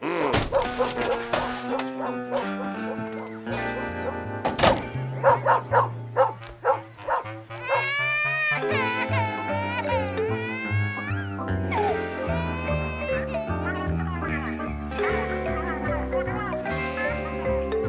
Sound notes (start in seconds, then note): 0.2 dog whimpers; 5.1 barking; 7.4 baby crying